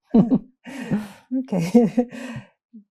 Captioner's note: laughing